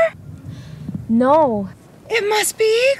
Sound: gasp

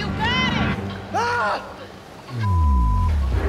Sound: beep

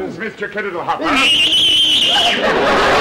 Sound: whistling; audience laughter

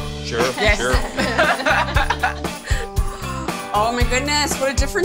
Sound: laughs

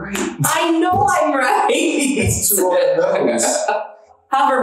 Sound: laughs

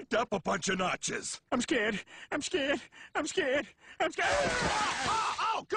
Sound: barfs

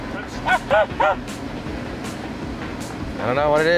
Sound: person laughing

